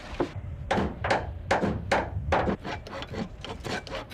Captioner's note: hammering